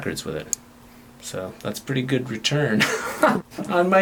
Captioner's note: laughs